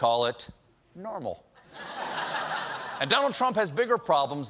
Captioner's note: laughter